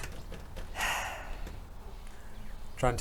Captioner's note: sigh